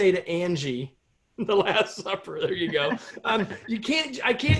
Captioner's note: laughter